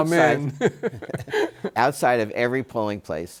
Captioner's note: laughs